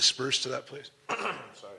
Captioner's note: clearing throat